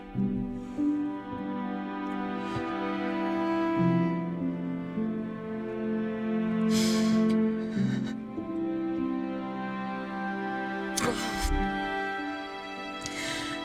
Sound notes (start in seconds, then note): 7.7 Helen sobbing